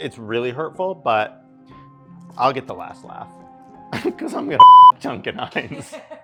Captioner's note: beep; assistant laughing